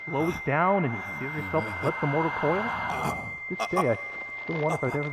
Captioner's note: continued surprised anime grunt-gasping